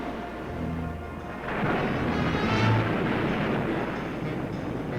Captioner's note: waves crashing